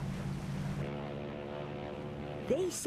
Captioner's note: ship's horn blowing